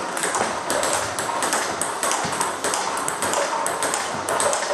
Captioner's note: ball ping pong hitting continues